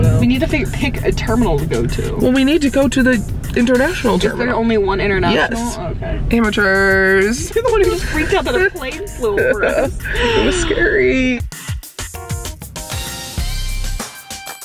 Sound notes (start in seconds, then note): 7.4 laughs; 12.0 upbeat music